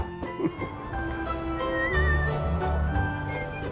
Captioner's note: knocks on wood